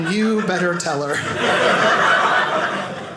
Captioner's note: audience laughing